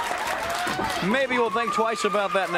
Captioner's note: crowd cheering